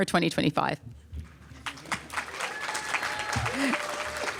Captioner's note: applause